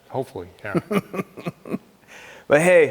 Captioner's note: laughing